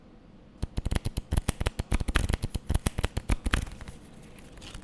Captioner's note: cards being shuffled